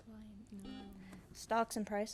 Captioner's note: buzzer buzzes